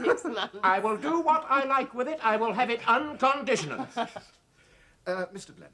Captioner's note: Sagamore chuckles; Sagamore chuckles